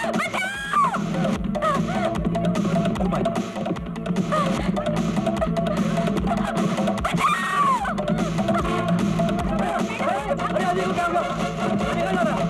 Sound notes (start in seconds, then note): 7.0 screams